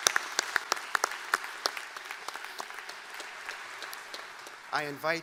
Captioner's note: applause